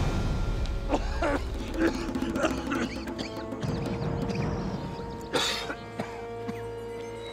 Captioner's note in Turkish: Müzik - Gerilim; Öksürme sesi